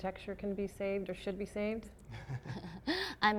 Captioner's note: laughter